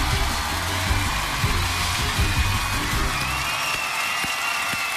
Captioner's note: cheers and applause